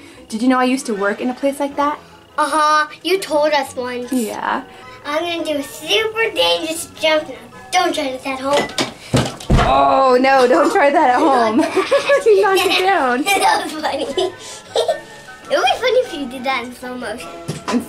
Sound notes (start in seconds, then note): 8.8 feet thudding on floor; 10.4 both laughing; 14.3 laughing